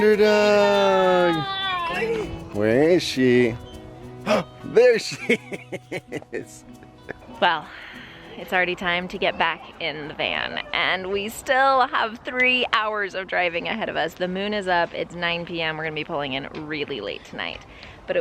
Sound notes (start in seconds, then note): 4.2 gasps; 4.9 laughs